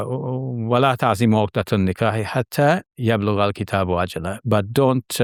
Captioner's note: speaking in Arabic